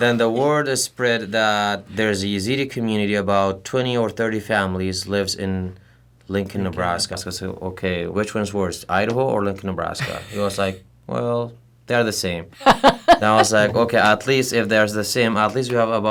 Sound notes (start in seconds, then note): 12.6 laughter